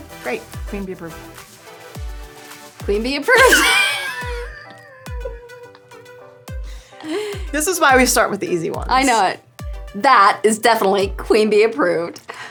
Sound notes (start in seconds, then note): 3.3 laughing